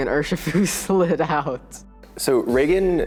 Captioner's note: laughing